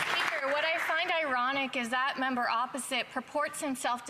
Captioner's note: some Applause